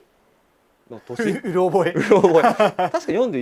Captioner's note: laughs